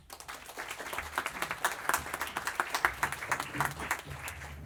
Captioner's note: applause